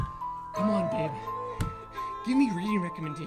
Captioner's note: door rattles; Alicia crying